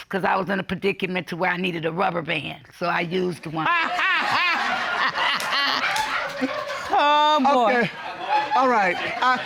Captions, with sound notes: cause I was in a predicament to where I needed a rubber band. So I used one. [all laugh] -Oh, boy. -Okay. All right.